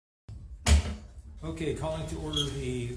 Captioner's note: gavel bangs